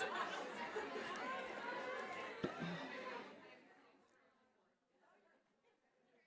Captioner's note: chatter